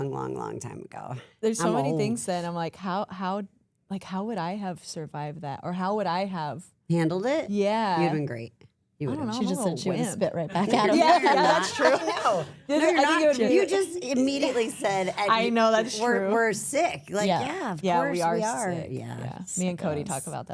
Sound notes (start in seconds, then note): 10.5 laughs; 10.6 everyone laughs